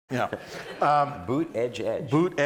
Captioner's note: all laughing